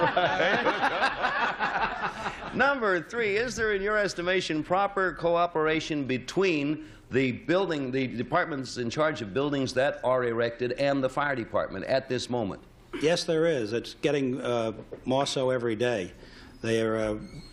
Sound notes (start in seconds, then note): 0.0 laughter